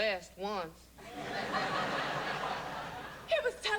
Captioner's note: laughter